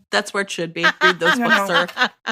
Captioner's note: laughter